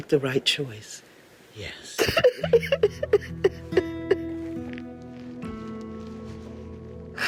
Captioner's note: crying